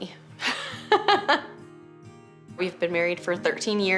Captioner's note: laughs